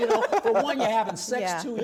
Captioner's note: laughs